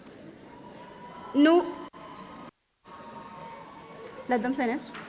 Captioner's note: audience cheering